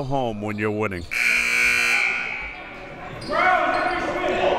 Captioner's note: buzzer